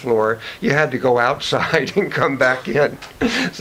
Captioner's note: chuckles